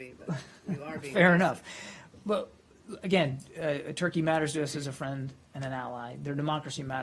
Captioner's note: laughter